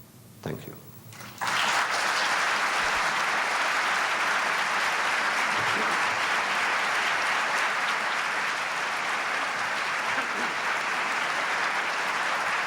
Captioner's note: applause